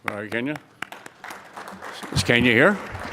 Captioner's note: audience applauds